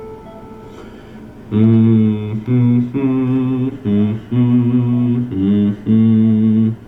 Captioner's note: humming